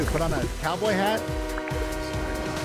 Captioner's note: train horn